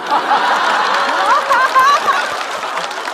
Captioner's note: haha